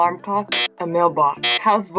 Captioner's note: buzzer sounds